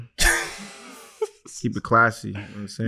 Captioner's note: laughing